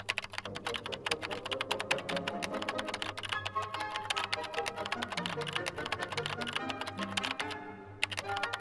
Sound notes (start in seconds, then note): 0.0 typing on a keyboard; 0.4 orchestra music